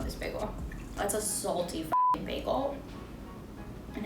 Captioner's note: beep